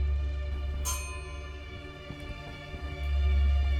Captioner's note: timer bell rings